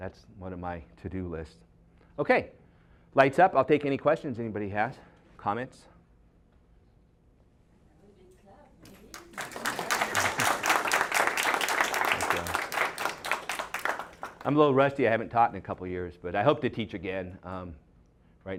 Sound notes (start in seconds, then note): 12.3 applause